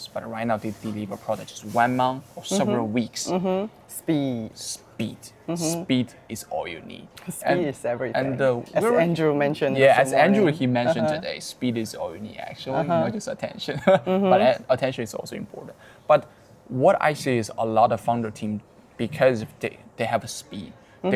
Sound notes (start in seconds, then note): 13.7 laughing